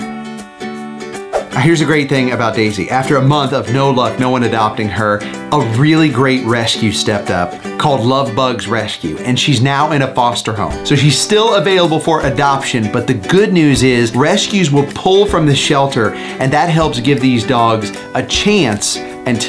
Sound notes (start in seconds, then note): 1.2 screen swooshes